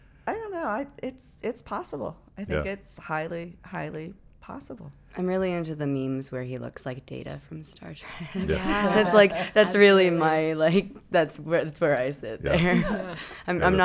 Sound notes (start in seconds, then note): 8.2 laughing